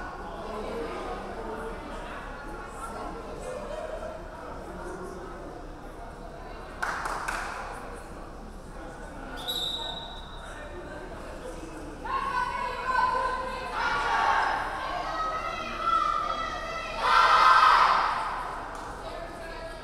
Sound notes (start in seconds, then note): 9.3 referee whistling; 12.2 players chanting